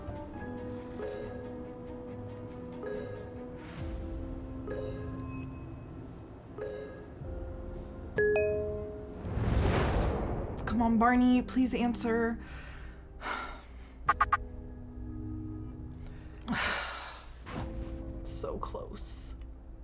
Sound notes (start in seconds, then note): 0.2 suspenseful music continues; 8.3 phone beeping; 9.1 air whooshing